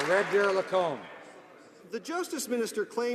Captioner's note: some Applause